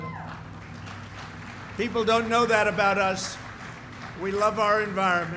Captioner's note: applause